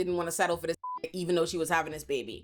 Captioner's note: beep